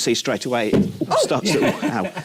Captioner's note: poof